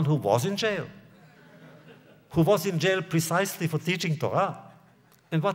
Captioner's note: laughter